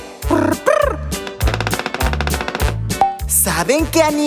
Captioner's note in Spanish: Sonido de pájaro carpintero